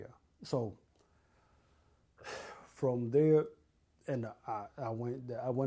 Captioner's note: sighs